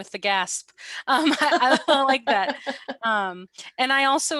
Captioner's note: laughter